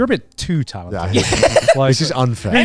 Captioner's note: laughing